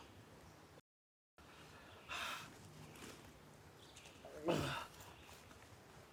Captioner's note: groaning